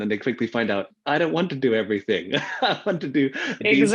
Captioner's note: laughs